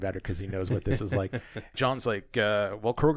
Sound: laughs

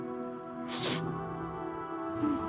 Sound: sniffles

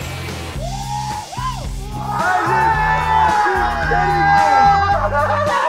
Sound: cheering

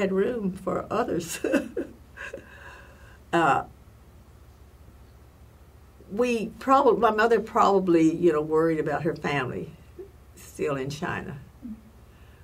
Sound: laugh

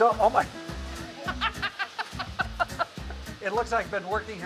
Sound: laughing

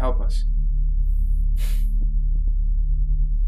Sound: sigh

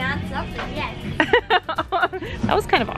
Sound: laughing

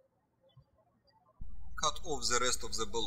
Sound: birds chirping

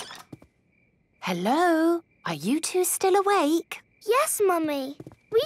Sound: whisper

